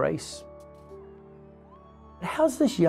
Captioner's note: crowd cheering